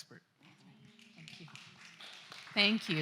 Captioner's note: applause